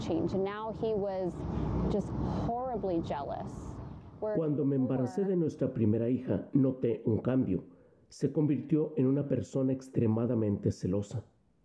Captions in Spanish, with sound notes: QUISO QUE TRABAJARA. [HABLA EN INGÉS]